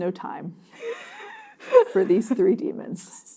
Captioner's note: laughing